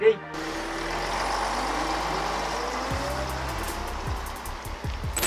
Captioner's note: bus noise